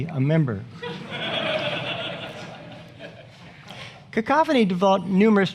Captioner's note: audience laughing